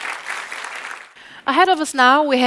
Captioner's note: audience applauding